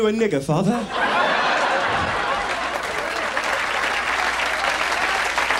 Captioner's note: audience laughs